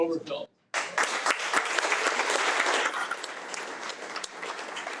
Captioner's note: audience applauding